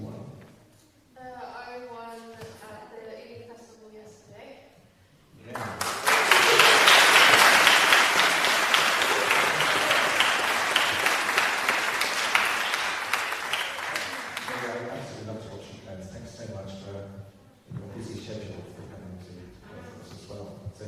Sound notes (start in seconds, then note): 5.5 applause